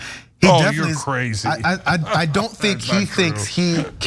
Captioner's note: laugh